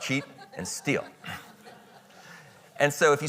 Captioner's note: audience chuckling